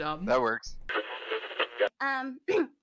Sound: radio tuning noise; clearing throat

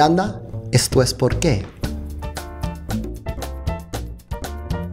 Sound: speaking spanish

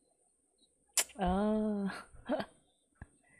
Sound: laughs

